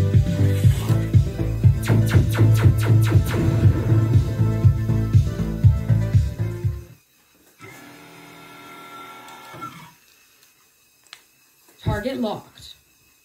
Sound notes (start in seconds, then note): 1.7 laser sounds; 1.8 explosion